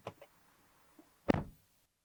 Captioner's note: door Thud